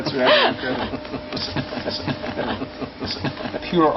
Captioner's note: chortling